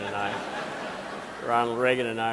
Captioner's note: audience laughing